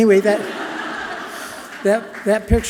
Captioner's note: audience laughing loudly